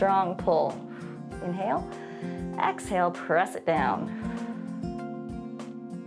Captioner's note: exhales